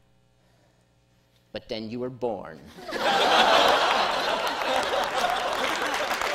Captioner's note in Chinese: 笑聲; 掌聲; 笑聲